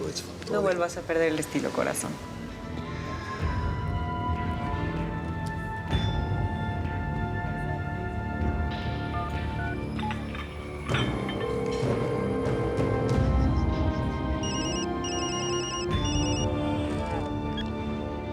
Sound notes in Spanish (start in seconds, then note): 11.3 sonido al marcar; 11.4 la otra línea timbra; 14.4 suena el celular